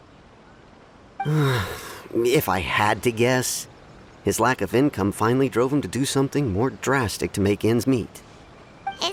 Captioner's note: sigh